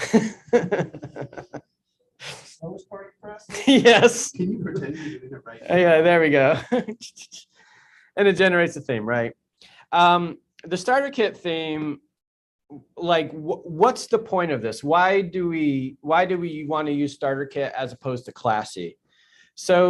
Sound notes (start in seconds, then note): 0.0 laughs; 6.6 chuckles